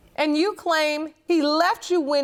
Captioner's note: none